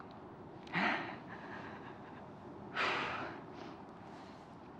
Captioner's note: sighs and exhales